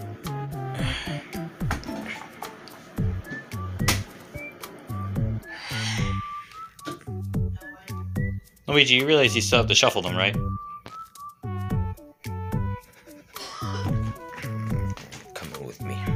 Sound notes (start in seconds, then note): 5.5 A sigh of relief as he's done all he can do; 13.3 cough Noise